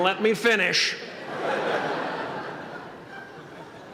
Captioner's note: laughter